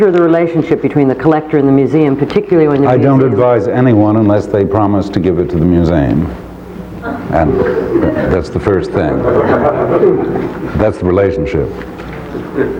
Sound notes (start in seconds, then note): 9.5 audience laughing